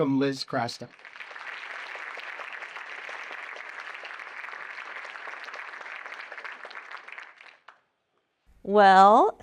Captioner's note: applause